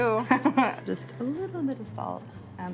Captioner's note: chuckles